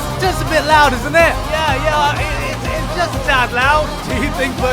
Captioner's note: yelling